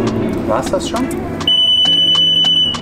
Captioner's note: loud beeping